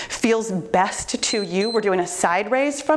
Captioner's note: timer beeps